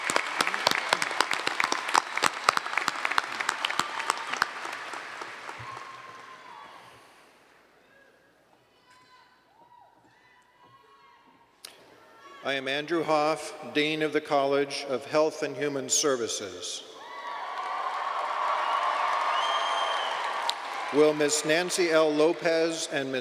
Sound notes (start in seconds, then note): 3.3 applause; 17.0 cheers and Applause